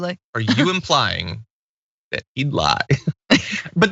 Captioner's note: laugh